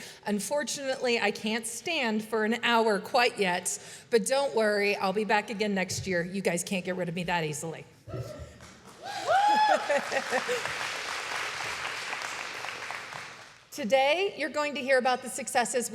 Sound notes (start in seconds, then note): 8.6 applause